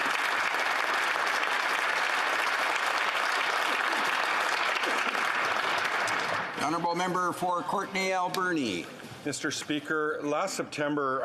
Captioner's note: applause